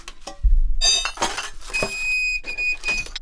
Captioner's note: metal clanking; whistle whistling